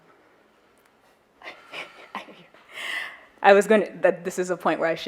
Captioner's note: laughs